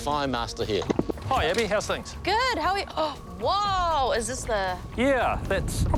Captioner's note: gasps